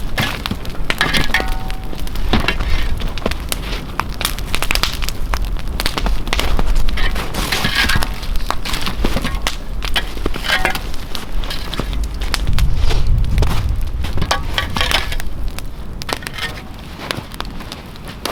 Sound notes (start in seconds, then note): 0.1 fire crackling; 7.6 metal scraping